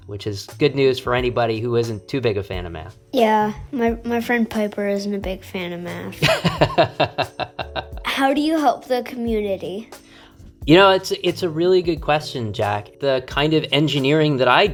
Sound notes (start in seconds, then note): 6.2 laughter